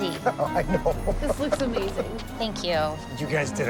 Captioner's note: laughs